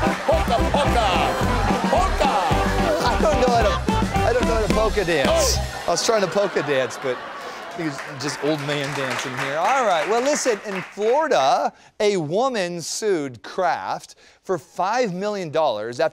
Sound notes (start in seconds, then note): 0.0 laughter; 5.4 laughter; 6.9 applause